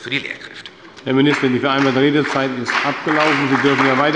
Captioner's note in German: Beifall bei der CDU und dem BÜNDNIS 90/DIE GRÜNEN